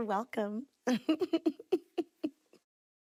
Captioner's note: laughs